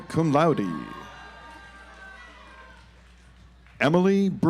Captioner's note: audience applauds